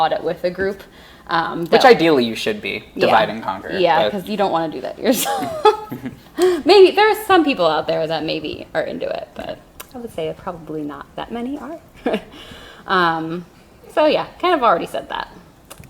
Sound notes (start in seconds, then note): 5.0 laughs